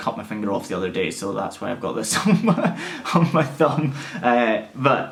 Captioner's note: laughs